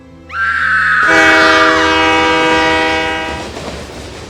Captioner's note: train horn blares; female screams; subway tracks clacking